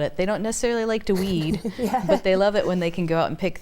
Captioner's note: laughing